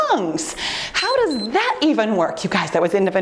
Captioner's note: timer beeps